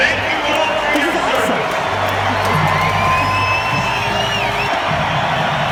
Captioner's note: crowd cheering